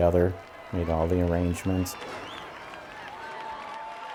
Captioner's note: crowd cheering and clapping